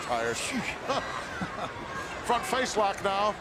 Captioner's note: laugh